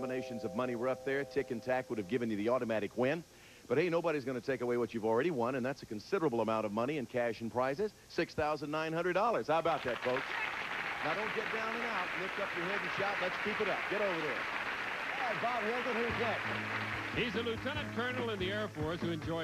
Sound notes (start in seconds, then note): 9.9 audience applauding